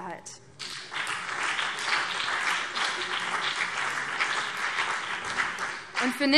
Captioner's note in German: Beifall